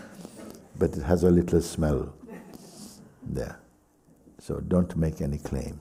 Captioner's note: sniffs